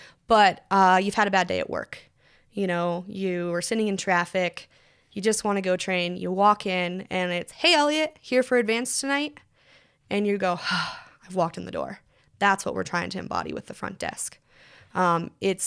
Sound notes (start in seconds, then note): 10.6 sighs